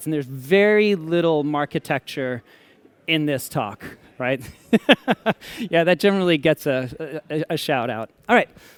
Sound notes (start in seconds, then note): 4.4 laughter